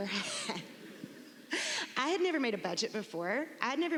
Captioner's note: laughs